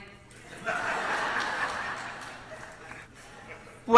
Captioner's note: laughter